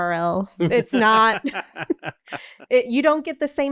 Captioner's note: laughing